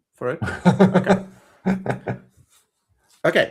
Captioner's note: laughs